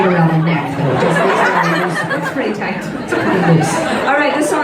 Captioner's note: laughing